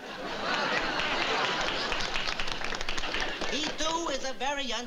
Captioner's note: applause